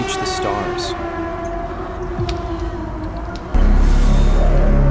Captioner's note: sirens wailing; tense danger music